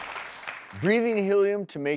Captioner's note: audience clapping